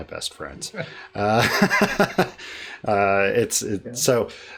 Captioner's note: laughter